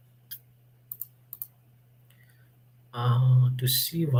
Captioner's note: keyboard clicking